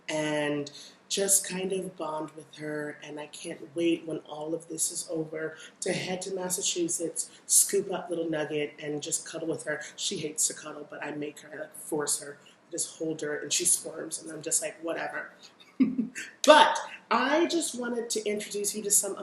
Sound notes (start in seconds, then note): 15.7 chuckles